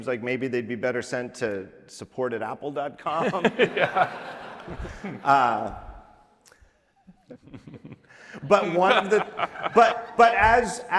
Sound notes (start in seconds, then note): 3.1 laughter